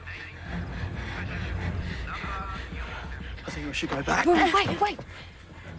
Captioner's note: announcement continues on loudspeaker